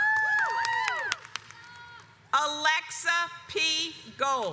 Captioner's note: audience cheers